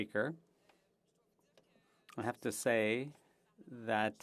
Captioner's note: speaking French